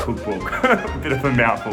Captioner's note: chuckles